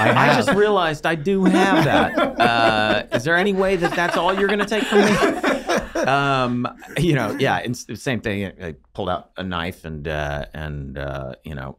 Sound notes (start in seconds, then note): 1.4 both laughing